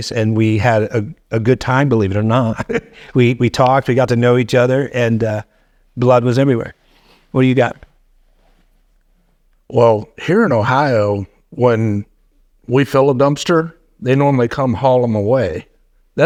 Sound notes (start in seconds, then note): 2.4 chuckling